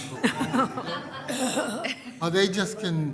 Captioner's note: laughter